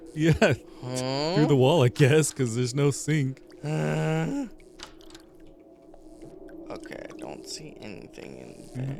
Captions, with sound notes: Yeah, through the wall, I guess, because there's no sink. (groans) Okay, I don't see anything in there.